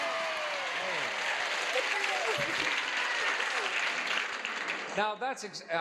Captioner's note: audience cheers